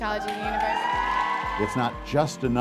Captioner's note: crowd cheers